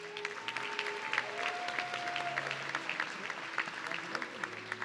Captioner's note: audience cheering